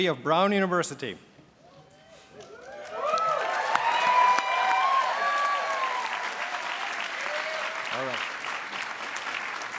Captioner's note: applause